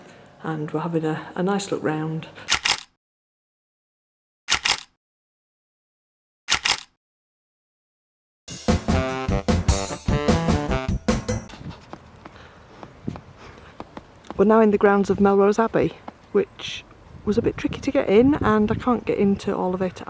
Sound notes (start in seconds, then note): 2.5 camera click; 4.5 camera click; 6.5 camera click; 8.5 jazzy fill music